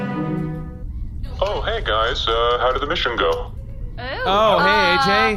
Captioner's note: transition, audience applauds